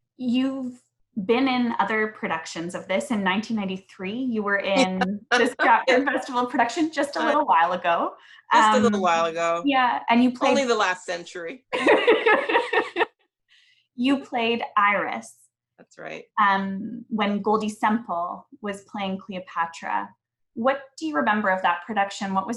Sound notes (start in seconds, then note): 11.7 laughs